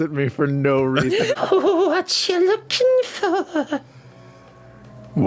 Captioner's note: bizarre creepy old lady voice